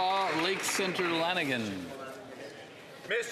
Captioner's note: applause